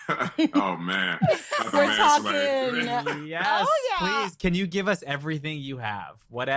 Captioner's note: laughs